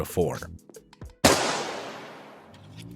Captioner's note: gunshot